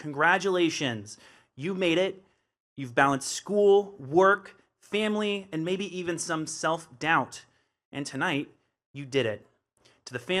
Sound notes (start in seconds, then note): none